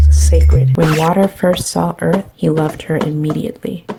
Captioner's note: scratch